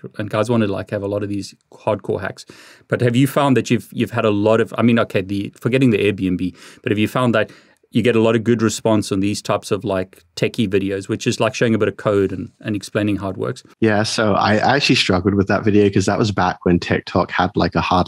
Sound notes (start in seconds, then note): none